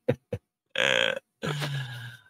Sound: sighs

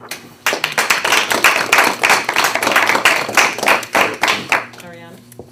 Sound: board members applauding

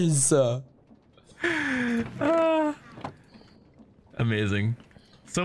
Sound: still laughing

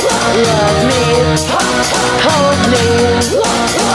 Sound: hah hah

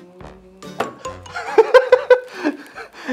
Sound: laughs

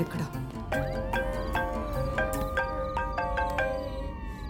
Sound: phone rings

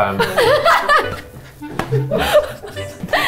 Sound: laughing

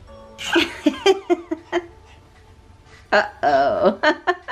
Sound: laughing

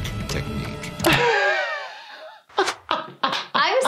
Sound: laughing

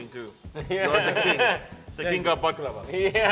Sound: laughs

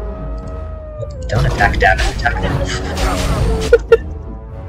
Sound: laughter

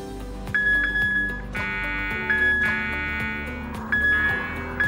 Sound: machine beeps

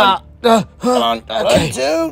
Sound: all grunting

